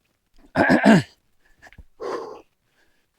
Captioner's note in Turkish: öksürme